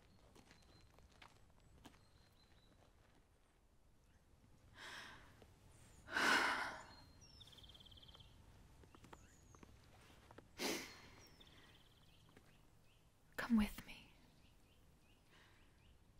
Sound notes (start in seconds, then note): 6.1 Mabel sighs